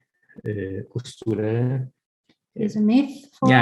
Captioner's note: speaks in foreign language